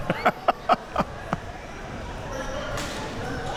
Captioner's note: laughing